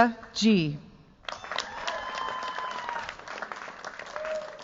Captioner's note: cheers, applause